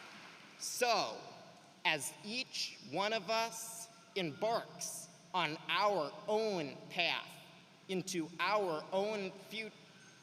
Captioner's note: applause